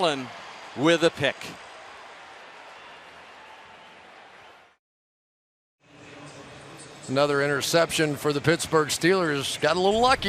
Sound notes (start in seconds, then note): 6.8 pa announcement